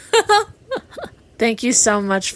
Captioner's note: laughing